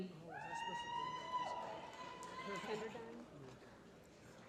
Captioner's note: applause